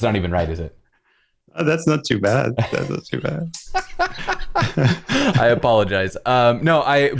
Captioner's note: laughter